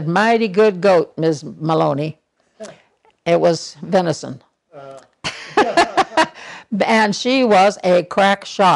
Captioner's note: laughter